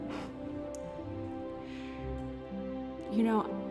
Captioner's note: congregation murmuring